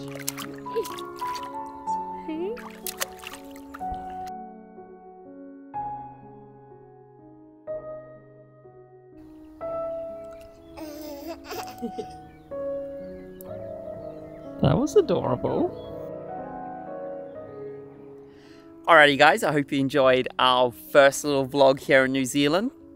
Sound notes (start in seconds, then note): 1.5 light instrumental music; 10.8 laughing